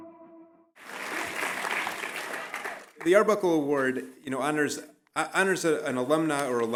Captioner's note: applause